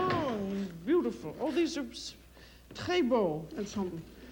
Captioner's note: speaks French